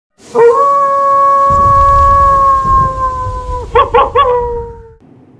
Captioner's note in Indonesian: suara lolongan serigala